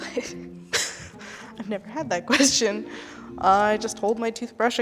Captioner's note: laughs